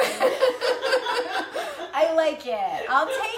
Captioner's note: laughing